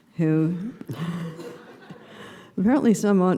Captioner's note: laughter